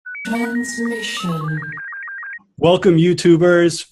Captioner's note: voiceover